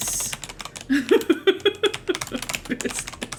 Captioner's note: laughs